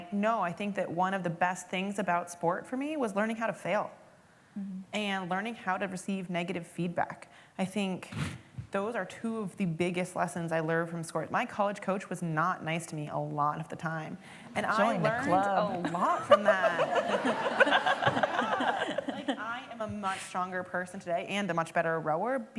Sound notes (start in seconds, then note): 15.8 laughter